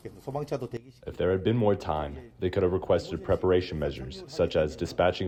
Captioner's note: through translator